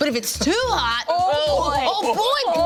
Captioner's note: all speak in unison